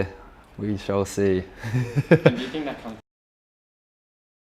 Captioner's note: laughing